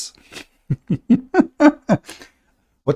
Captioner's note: Ketawa